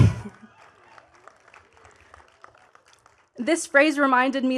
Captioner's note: chuckles; attendees clapping